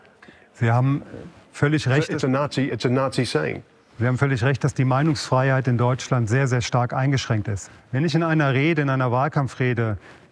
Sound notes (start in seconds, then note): 0.4 speaking German